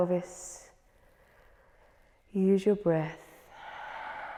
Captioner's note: inhales; exhales